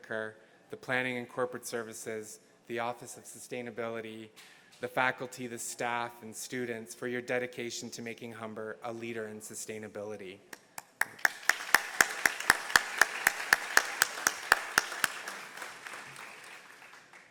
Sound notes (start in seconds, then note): 10.7 applauds; 10.8 audience applauds